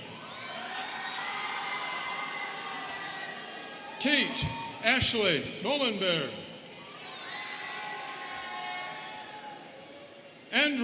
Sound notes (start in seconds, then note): 0.0 students cheering; 6.8 students cheering